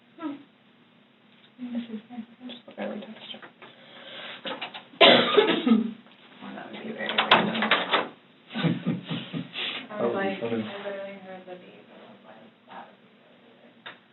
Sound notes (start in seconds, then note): 7.0 door opens; 8.5 chuckles